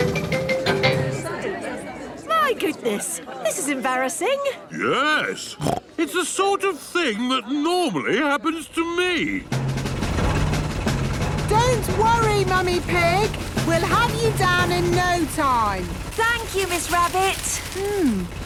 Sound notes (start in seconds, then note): 1.0 all murmuring; 5.5 snorts